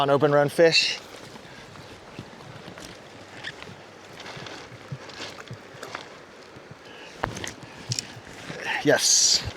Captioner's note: water splashing